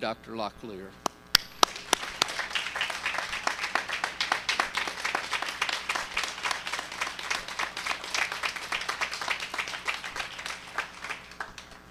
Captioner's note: cheers and applause